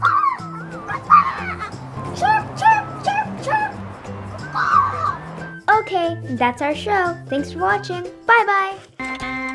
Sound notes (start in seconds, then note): 0.6 imitates bird calls; 4.9 squawks